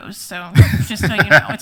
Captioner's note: laughs